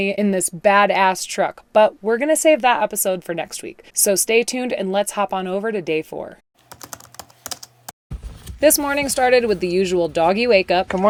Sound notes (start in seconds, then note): 6.6 keyboard tapping